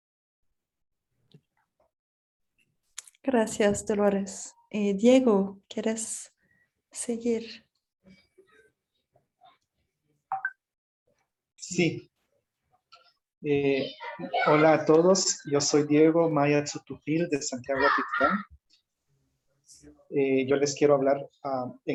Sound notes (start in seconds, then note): 9.5 speaks in Spanish